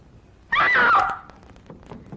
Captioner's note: scream